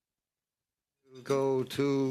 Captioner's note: speaking French